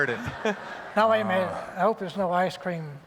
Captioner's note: light laughter